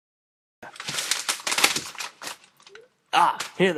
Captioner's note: rustling papers